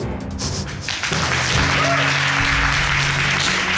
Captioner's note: applauding